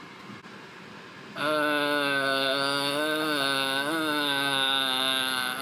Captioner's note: groaning